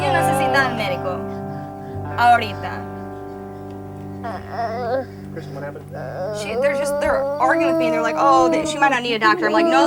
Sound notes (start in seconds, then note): 0.1 speaking foreign language; 4.2 baby sobs gently